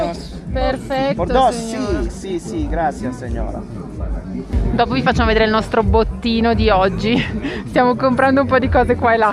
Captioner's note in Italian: risate